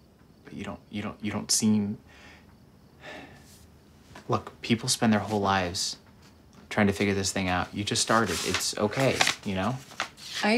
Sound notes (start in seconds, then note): 3.0 sighs